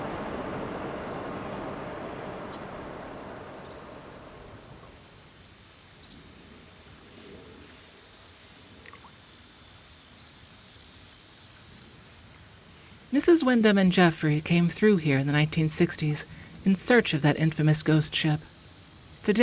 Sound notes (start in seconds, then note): 0.0 rustling; 0.0 wind blowing; 1.3 insects chirping; 11.3 insects continue chirping